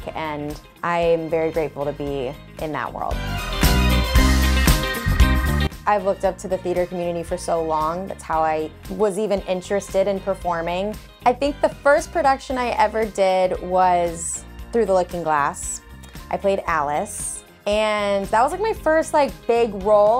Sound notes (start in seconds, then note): none